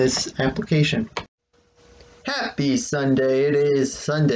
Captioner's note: click